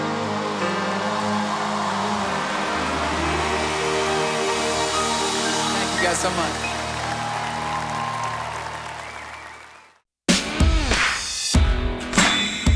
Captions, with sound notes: [CHEERING] Thank you, guys, so much.